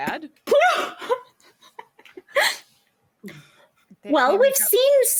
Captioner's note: laughs